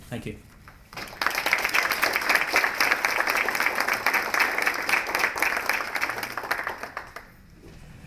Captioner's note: applause